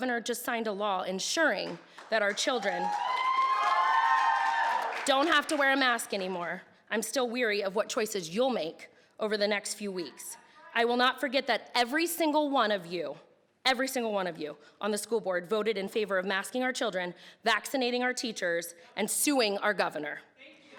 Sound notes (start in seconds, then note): 2.5 audience cheering